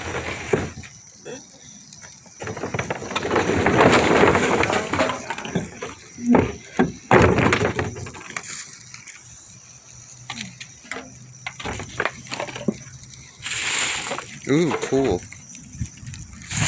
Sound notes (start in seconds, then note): 2.4 can of burn material being moved